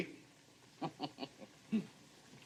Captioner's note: chuckles